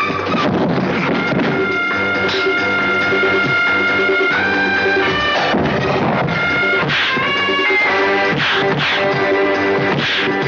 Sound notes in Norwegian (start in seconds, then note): 8.3 paff..piff